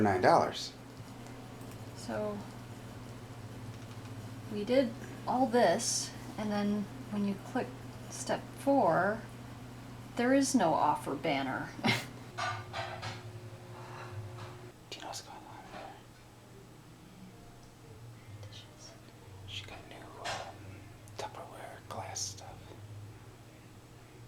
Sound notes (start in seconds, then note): 11.9 pots clatter; 15.0 whispering